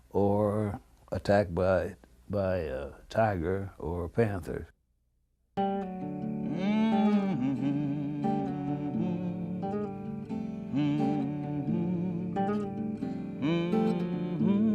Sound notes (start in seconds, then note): 5.6 singer humming; 5.6 inspirational music